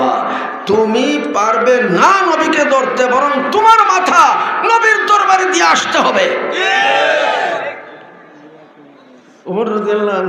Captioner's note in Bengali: চিৎকার করা